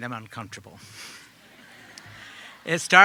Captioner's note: audience laughing